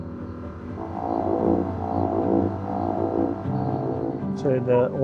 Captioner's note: machine humming